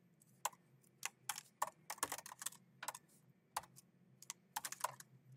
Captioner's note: keyboard clacking